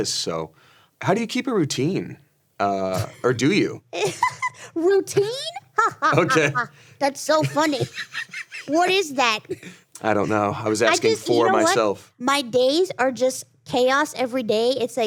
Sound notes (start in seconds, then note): 5.0 laughs